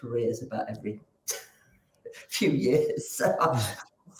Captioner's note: chuckles